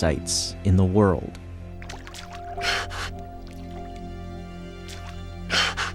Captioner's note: dolphin breathing